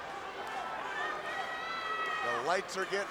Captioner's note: crowd chattering